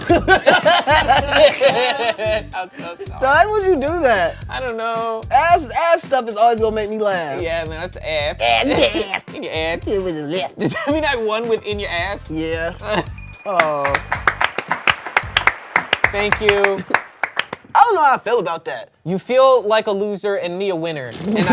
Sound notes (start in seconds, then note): 0.0 everyone laughs; 13.5 everyone applauds